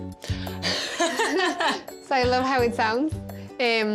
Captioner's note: laughs